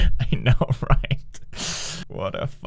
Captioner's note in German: atmet ein